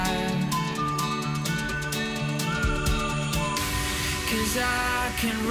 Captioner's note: whistling